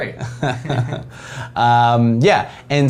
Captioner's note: both laugh